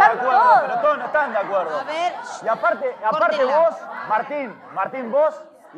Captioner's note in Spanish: Gritos, Discusión